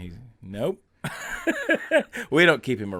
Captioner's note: laughing